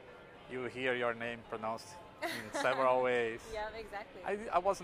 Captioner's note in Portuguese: risos